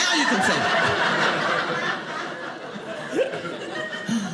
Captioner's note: audience laughing